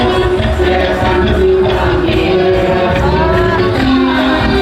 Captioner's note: laughing